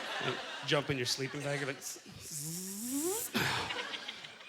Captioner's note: zipping sound